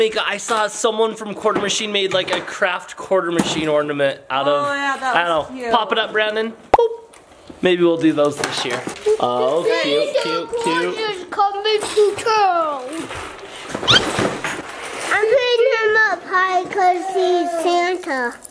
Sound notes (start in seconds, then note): 7.0 bubble pops; 10.8 mumbling